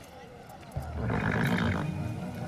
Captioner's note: horse snorts